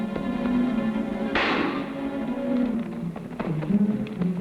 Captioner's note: guns firing